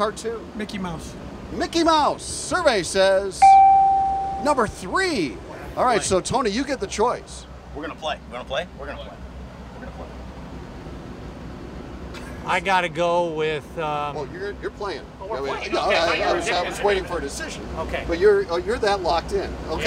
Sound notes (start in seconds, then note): 3.4 bell